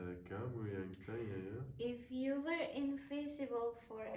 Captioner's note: speaking foreign language